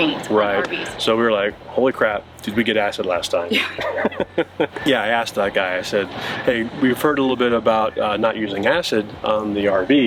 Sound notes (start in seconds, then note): 3.5 laugh